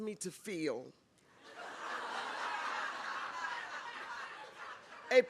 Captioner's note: laughter